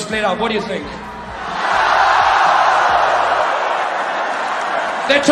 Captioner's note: crowd erupts